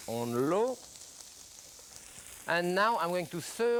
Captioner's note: skillet sizzling